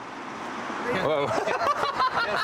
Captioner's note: laughter